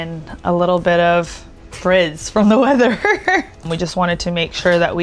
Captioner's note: laughing